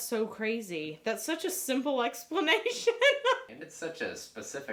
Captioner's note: laughs